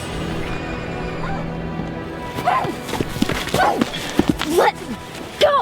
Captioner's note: woman shouts